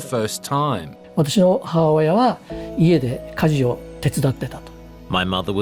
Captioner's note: speaks japanese